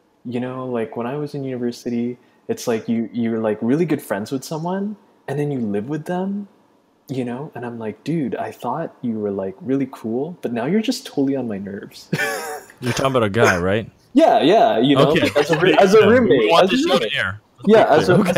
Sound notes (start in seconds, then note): 12.1 laughs; 15.0 laughter